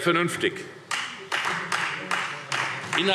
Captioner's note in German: Beifall Freie Demokraten